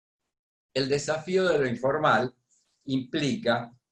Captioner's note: speaking spanish